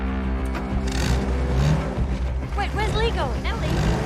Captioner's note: land rover engine revs